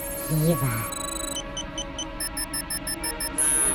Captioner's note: beeping